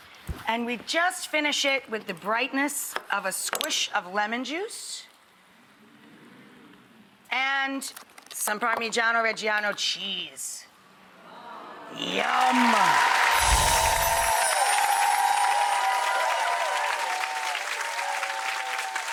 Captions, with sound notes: and we just finish it with the brightness with a squish of lemon juice. And some Parmigiano-Reggiano cheese. (audience moans) Yum! (audience clapping) (audience cheering)